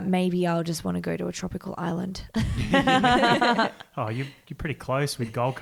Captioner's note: laughs